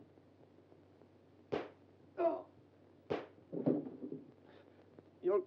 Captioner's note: gunshots blare